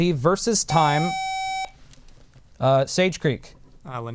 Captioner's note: buzzer